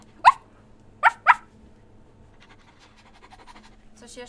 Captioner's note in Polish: szczekanie